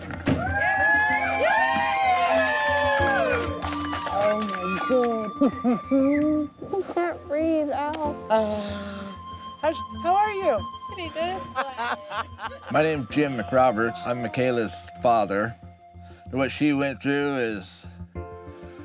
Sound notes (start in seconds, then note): 0.3 cheering